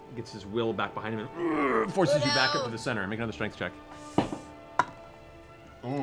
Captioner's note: grunts